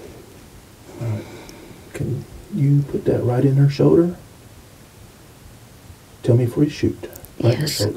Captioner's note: whispering